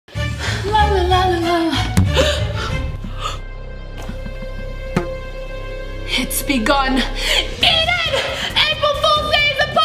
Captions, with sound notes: - La la la la (gasps) (dramatic music) (boing) It's begun! Eden, April Fools day is upon us!